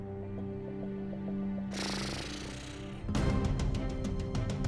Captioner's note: sputters